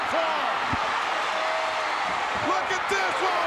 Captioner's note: crowd cheers